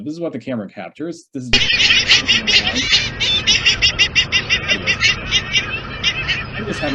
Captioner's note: gulls calling